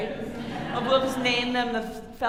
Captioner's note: audience laughing